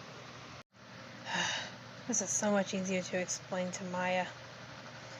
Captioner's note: sighs